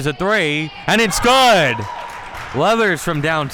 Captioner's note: spectators applauding